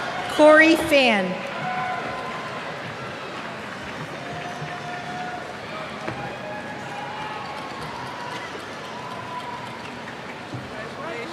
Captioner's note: cheers